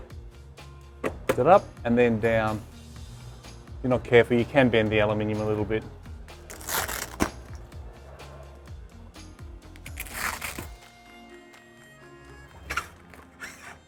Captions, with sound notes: Lift it up and then down. If you're not careful you can bend the aluminum a little bit. (velcro ripping) (light music)